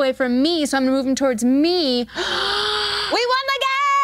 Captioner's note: gasping